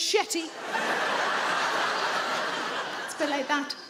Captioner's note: audience laughing